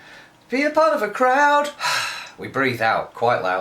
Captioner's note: exhales loudly